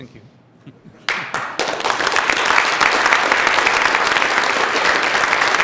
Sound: applause

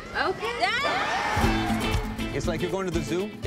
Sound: cheering

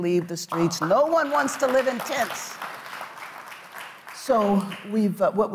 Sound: audience applauds

